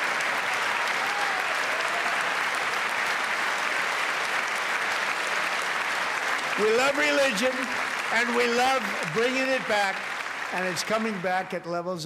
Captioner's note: applause